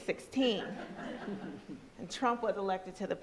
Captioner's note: crowd laughs